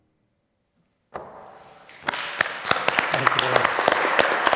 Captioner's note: audience clapping